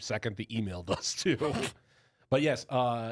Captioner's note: laughs